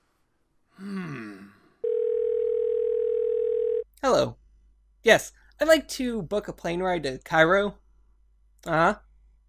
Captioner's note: phone Dial tone